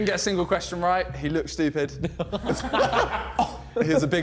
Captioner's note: men laughing